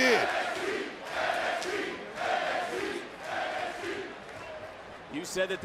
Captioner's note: crowd chants"nxt"